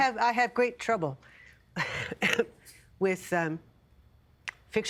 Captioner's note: coughing